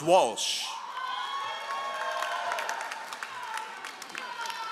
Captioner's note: all applauding